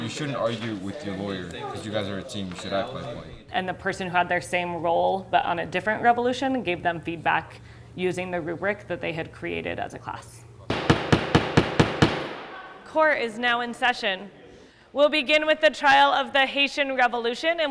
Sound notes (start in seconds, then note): 10.7 gavel banging